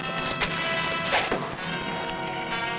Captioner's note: arrow whooshing; tense music